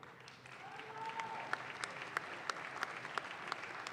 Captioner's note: audience claps